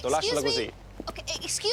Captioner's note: speaks italian